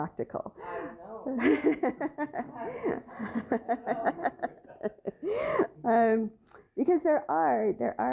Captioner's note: laughter